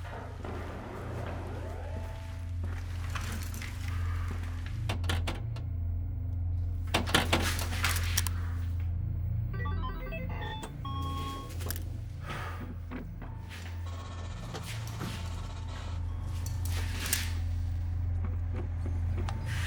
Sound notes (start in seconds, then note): 0.0 distant beeping; 0.2 clanging continues; 4.6 springy clanging; 9.5 happy game chime; 12.2 relieved exhale; 12.8 digital rustling; 14.0 more clanging; 16.6 gun clicks